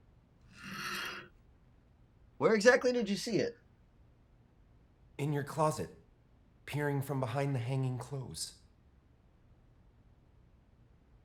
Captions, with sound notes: (hangers slide open) Where exactly did you see it? In your closet. Peering from behind the hanging clothes.